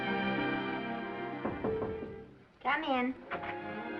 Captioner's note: knocking